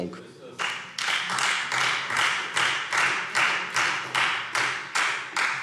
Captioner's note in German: Beifall Freie Demokraten